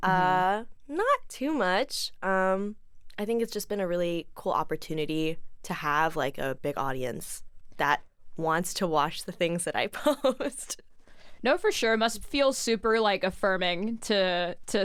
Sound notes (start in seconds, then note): 10.0 chuckles